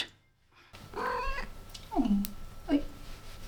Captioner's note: mreow